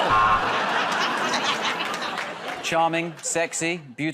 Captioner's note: buzzer